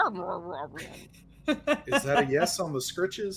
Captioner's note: laughing